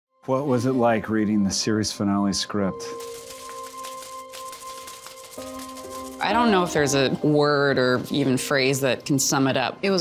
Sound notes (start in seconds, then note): 3.0 letters clacking; 3.2 gentle ambient music